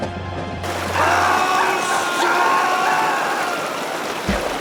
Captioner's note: all three screaming